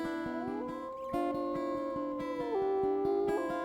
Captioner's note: wolf howling